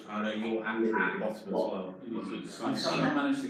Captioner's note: distorted echoing